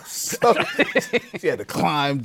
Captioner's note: laughter